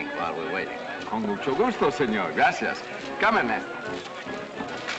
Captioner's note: in spanish